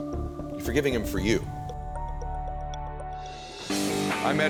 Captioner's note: graphic whooshing; suspenseful music; upbeat music